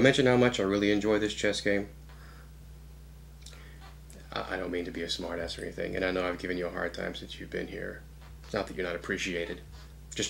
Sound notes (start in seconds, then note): none